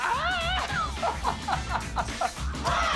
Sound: laughter

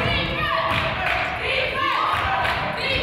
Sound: claps

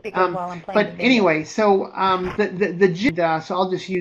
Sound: voiceover

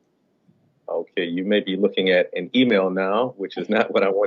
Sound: laughter

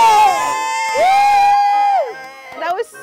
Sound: cheers

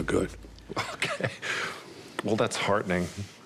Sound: chuckles

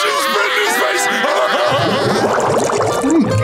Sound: laughing

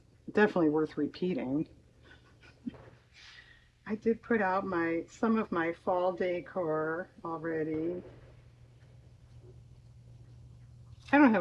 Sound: laughs

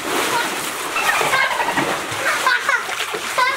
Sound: water splashing; dolphin clicking; laughing

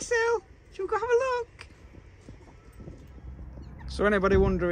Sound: laughing

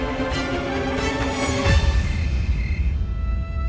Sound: cricket buzzing

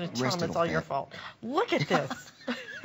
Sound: laughter

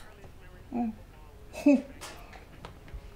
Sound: chuckles

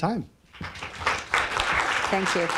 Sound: applause

